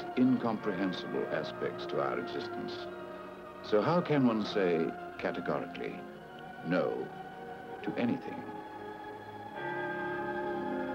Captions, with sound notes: to our existence, so how can one say categorically, no, to anything. (bells chiming)